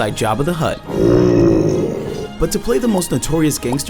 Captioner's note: Jabba grumbling